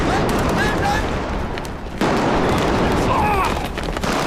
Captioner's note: rifle and machine guns fire